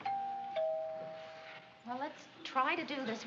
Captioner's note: doorbell rings